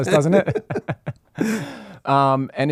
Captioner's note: laughing